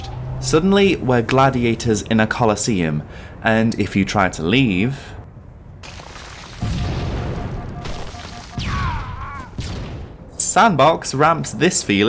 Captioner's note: boom